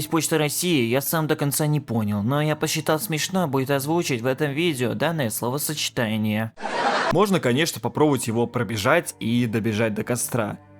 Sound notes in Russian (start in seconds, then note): 6.6 закадровый смех